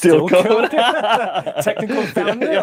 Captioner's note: both laugh